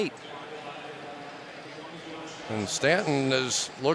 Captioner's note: pa announcement